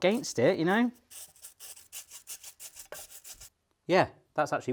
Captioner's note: bristles rubbing